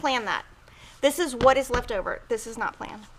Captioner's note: thud thud